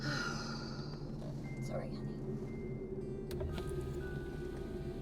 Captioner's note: sighs